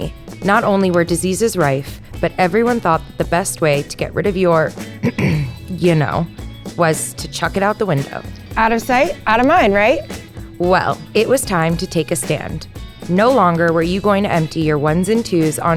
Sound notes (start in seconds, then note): 5.0 coughs